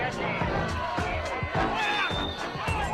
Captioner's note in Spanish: gritos